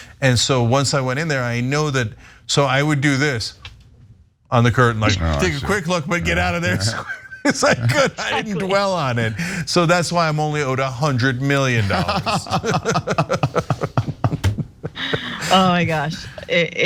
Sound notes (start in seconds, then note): 8.5 laugh; 11.7 laugh